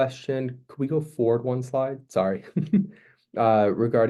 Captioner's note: chuckling